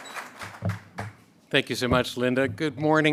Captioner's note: a pplause